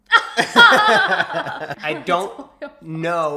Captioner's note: laughs